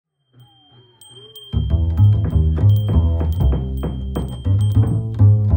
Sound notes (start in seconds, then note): 0.1 bells jingle in the distance; 1.8 hammering and sawing in the distance; 5.3 jazzy Music Plays